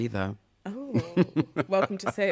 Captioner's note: laughter